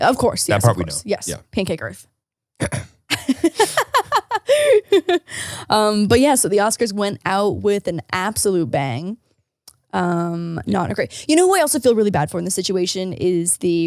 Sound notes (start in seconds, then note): 2.6 clears throat; 3.1 laughing